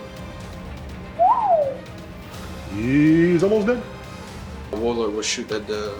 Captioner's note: whistles